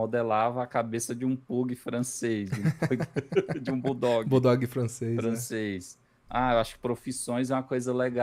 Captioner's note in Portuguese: risadas